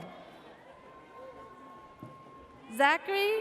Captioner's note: audience cheers